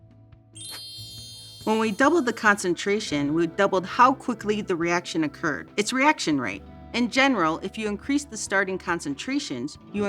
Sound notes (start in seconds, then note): 0.5 reaction chimes